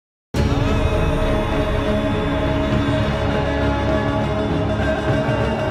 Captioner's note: dramatic music; chanting